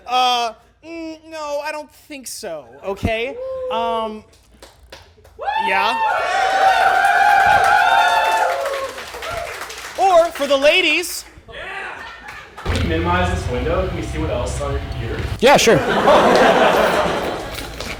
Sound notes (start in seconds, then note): 6.0 applause; 15.7 laughter